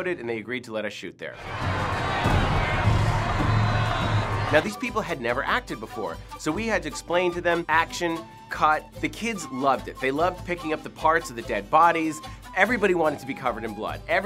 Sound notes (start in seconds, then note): 1.4 drums beating; 2.0 shouting